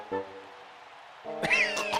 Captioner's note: coughing